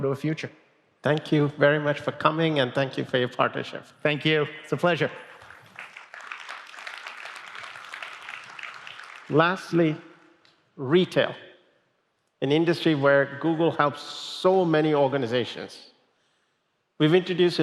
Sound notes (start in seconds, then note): 5.2 applause